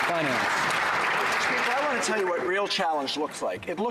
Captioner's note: some Applause